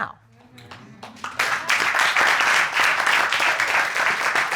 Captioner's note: audience murmuring and applauding